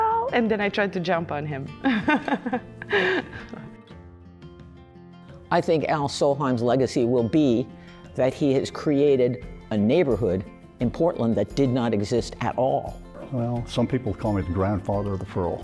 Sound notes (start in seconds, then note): 1.8 laughs